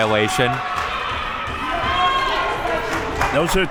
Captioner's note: audience cheering